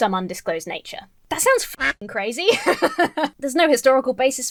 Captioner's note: laughs